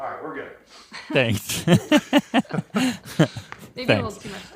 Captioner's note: laughs